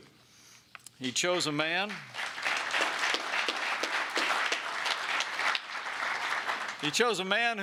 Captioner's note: applause